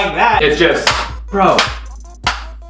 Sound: clacking; clack

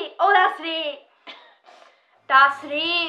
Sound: laughing

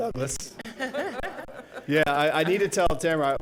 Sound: laughs

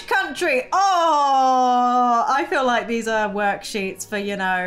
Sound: groans

